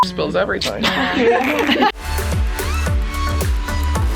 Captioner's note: beep; girls laughing